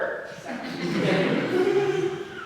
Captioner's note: laughs; audience laughs